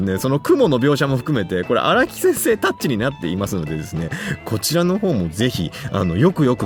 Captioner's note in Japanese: 笑い